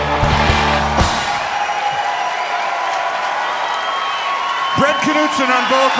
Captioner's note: crowd clapping and cheering